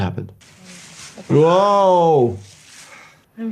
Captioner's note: leaves crunching